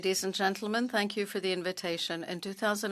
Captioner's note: speaking French